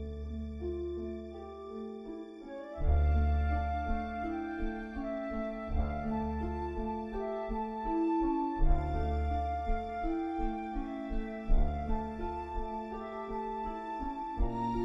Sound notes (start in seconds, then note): none